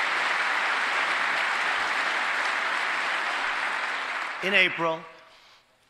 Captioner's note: applause